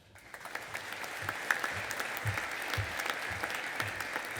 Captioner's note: audience applauding